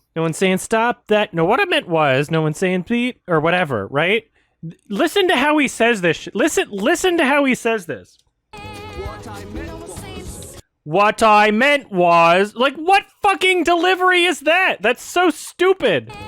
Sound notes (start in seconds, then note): 8.8 flatly; 11.1 mockingly